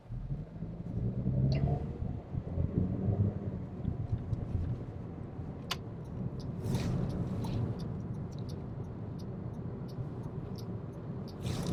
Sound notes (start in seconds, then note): 0.9 engine revving